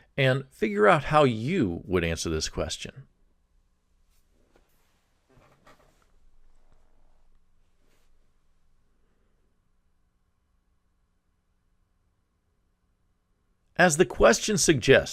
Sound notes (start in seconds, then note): 3.3 pause